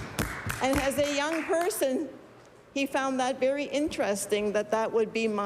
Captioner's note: applause